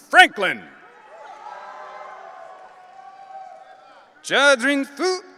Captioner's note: audience cheering